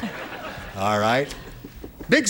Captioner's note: laughter